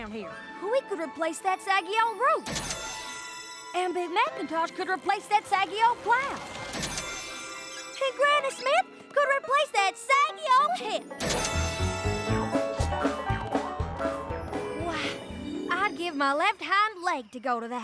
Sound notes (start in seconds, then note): 2.1 poof!; 6.3 poof!; 11.2 poof!; 12.0 up-tempo music plays